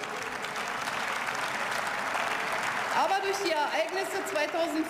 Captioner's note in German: Beifall